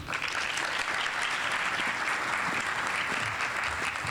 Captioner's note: audience applauding